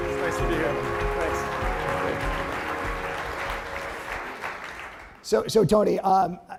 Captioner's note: applause